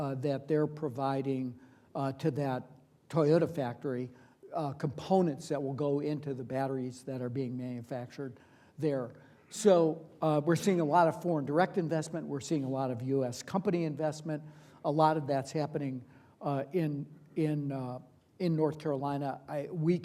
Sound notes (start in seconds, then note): none